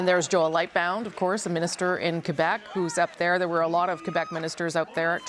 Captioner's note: cheering